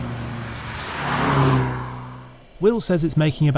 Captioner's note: vehicle revs